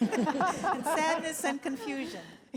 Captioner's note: audience laughs